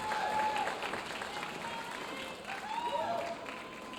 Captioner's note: audience applauding